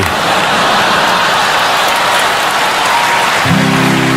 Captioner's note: laughter, applause, cheers